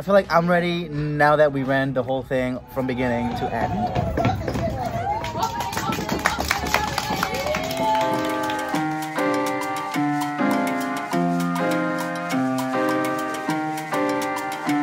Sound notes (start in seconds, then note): 4.4 hands clapping; 7.0 light music